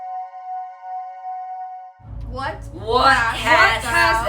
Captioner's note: laughing